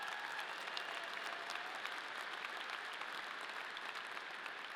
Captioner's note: audience applauding